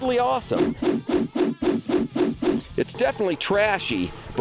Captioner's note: swooshing